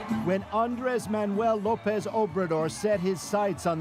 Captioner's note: cheers and Applause